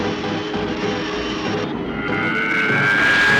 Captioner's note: zooming